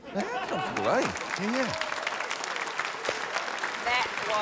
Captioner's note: cheering, applause